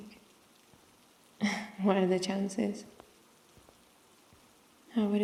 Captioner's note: laughs